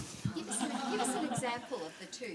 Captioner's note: laughs